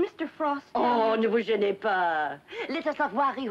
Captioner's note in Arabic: يتحدث بلغة أجنبية